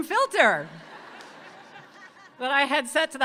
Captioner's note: audience laughing